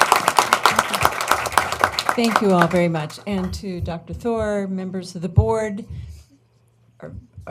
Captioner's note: applause